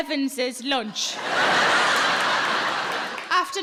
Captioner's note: audience laughing